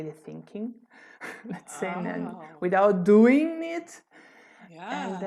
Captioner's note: laughter